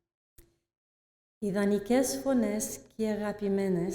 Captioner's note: non-english speech